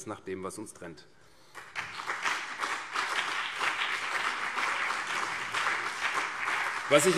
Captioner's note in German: Beifall CDU und BÜNDNIS 90/DIE GRÜNEN